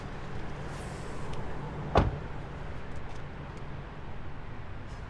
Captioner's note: door thuds